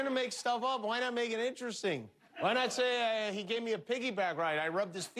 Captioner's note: laughter